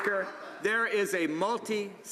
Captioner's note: some Applause